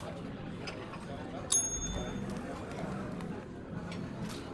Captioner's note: ding